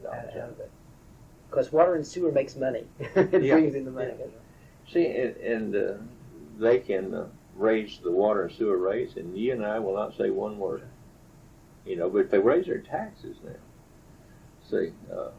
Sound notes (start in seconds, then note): 2.9 laughs